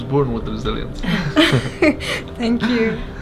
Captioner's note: laughs